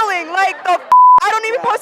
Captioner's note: beep